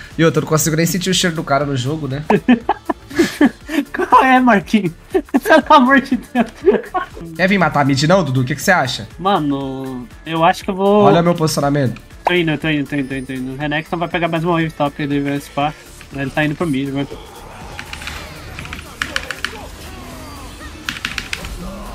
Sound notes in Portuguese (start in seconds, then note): 2.2 risos; 6.1 risos